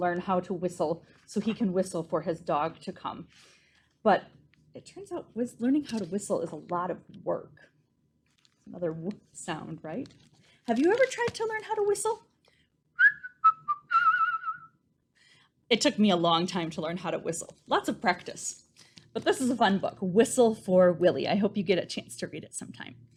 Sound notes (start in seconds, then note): 12.9 whistling